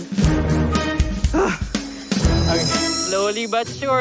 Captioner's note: exhales sharply